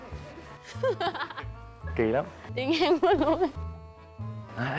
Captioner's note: laughing